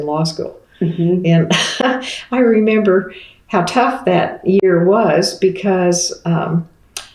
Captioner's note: laughs